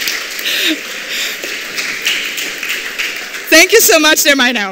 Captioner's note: laughter